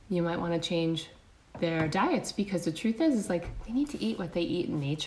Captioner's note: none